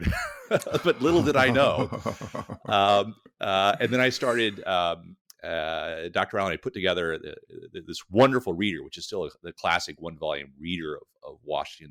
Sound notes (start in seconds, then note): 0.0 laughs